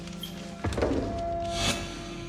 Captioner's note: clanging; foreboding music playing